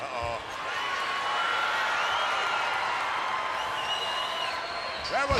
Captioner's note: applause